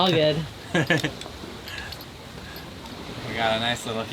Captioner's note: chuckles